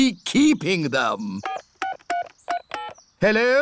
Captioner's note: dialing phone